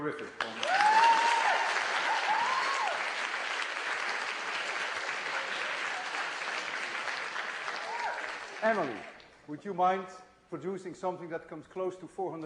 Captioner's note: applause, cheering